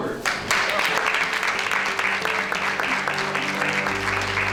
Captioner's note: audience applauds